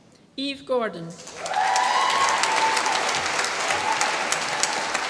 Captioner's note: applause